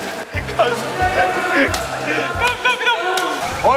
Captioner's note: Tertawa lebar